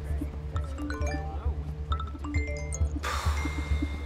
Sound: texts chiming

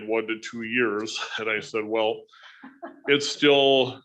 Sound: woman laughing

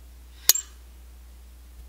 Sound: clink

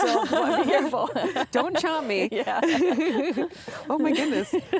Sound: laughs

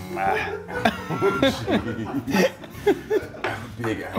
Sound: laugh

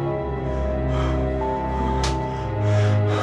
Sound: frightened breathing

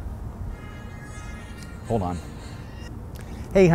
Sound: cellphone ringing

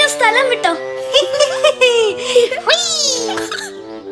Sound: monkeys chuckle

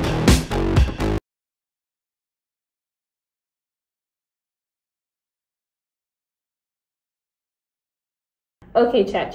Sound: rock music; awkward silence

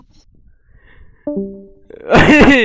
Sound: Discord Disconnected Sound Effect

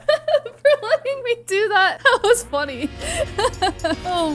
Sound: laughs

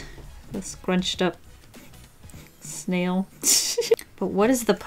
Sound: laughs

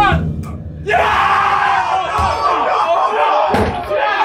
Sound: all cheering; all chattering

